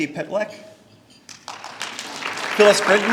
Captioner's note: applause